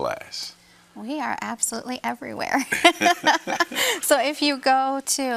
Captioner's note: laughs